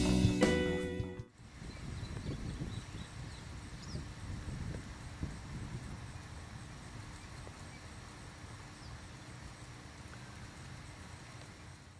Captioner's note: sounds of nature: wind, birds chirping